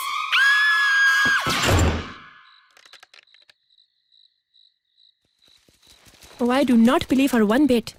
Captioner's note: door slams